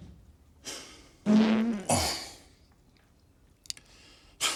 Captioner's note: farting